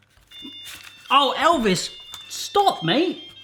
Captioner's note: beeping